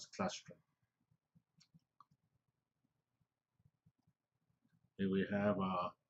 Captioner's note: pause